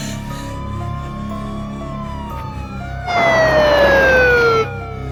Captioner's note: police sirens wailing